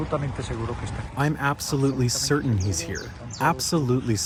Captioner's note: through translator